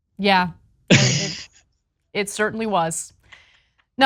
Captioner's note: laugh